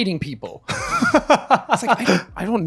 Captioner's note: laughing